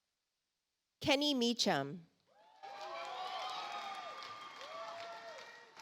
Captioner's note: audience applauds